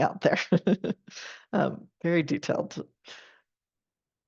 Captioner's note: chuckles